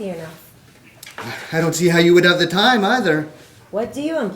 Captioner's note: sighs